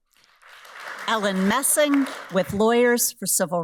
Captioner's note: audience applauds